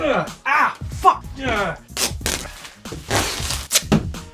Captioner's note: tape popping